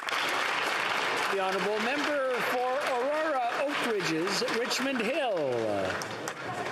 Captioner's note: some Applause